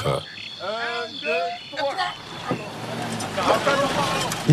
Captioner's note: foreign language